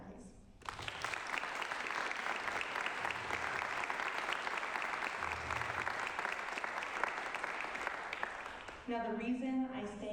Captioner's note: applause